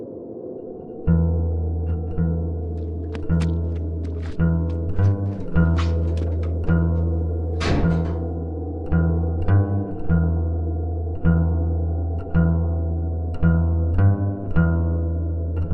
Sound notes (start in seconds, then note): 1.2 dark acoustic guitar music; 7.5 door slams